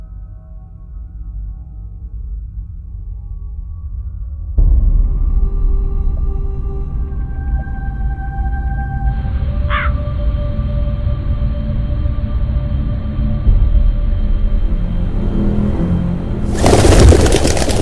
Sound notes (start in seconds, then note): 9.6 a sound of a crow; 16.4 a bird flying away